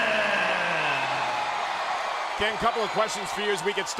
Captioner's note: applause